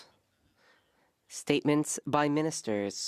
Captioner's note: speaking French